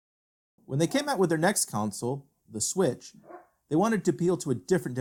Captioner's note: dog barks in background